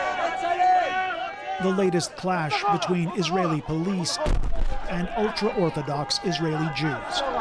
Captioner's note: crowd noise